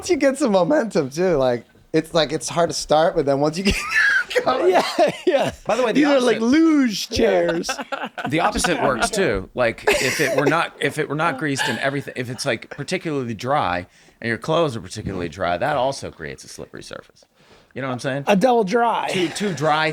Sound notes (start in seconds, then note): 3.7 uncontrollable laughing